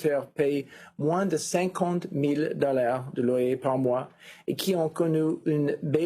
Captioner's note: speaking FRENCH